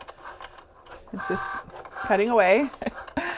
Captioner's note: laughing